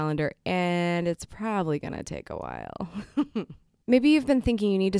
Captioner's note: chuckles